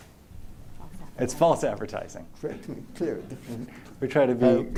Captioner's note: laughter